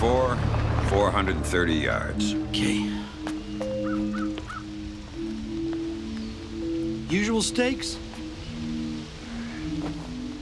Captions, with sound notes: - It's a par four, 430 yards. - Okay. (bird caws) Usual stakes?